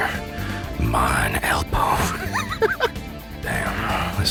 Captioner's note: breaks into laughter